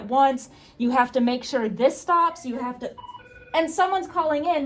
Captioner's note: phone starts ringing